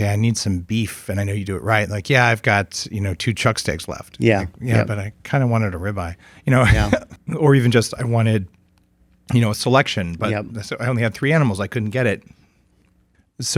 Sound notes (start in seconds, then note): 6.6 laughs